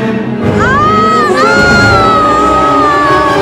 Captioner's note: Screaming